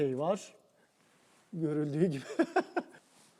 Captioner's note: laughing